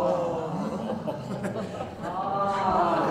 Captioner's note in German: Gelächter